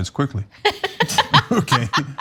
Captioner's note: laugh